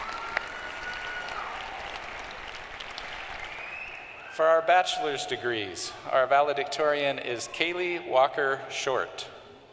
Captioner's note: cheering and applause